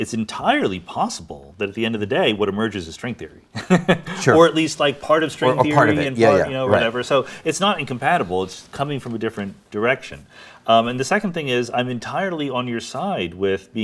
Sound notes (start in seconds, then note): 3.6 laughs